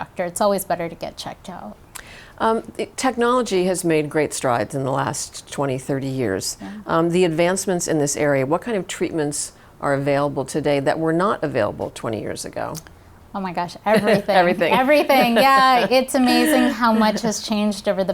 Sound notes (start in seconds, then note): 15.0 both chuckling